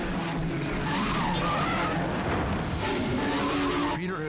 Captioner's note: tires screeching